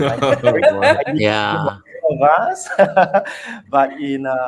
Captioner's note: laughs